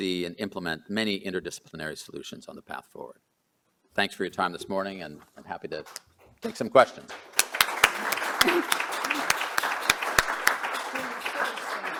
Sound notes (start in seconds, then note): 8.2 applause